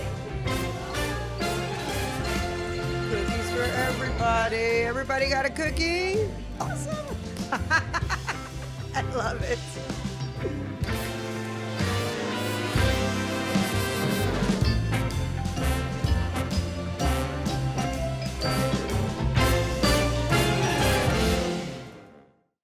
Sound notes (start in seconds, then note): 0.0 exciting music; 1.5 exciting music; 6.1 exciting music; 6.6 laughing; 6.6 laughs; 8.0 exciting music; 10.9 exciting music; 19.1 exciting music ends